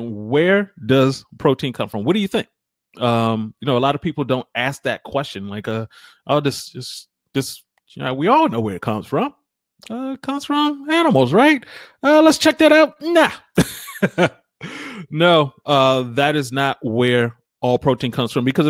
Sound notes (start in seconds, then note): 13.5 laughs